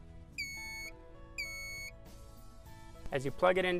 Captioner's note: device beeping